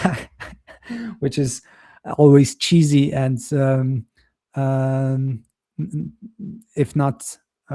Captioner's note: chuckles